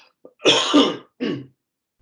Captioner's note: coughs, clears throat